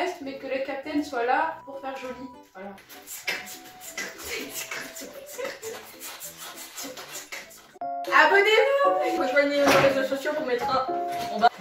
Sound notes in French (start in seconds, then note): 3.0 Rire